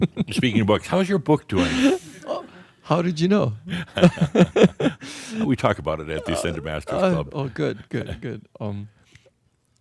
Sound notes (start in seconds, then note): 0.0 he chuckles; 6.1 they chuckle